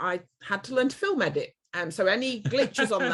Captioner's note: laughs